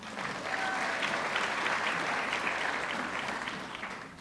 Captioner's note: audience clapping